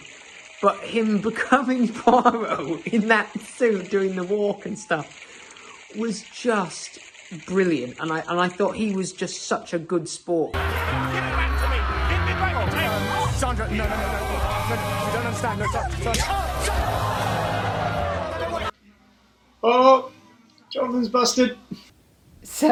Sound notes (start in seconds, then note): 16.1 slap